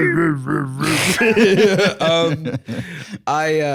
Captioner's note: laughs